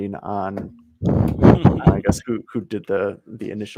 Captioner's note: laughing